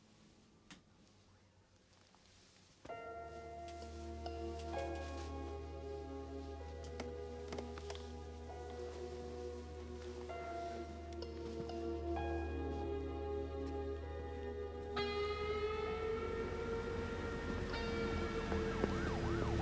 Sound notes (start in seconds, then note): 3.2 slow music; 13.2 sirens wail